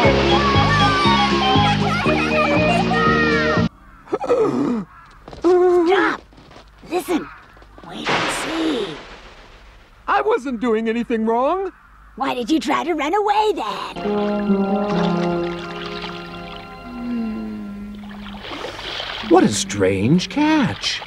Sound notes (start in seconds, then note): 0.0 the children yell and laugh; 4.1 strangled gasp